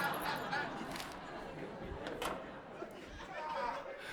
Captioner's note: audience laughing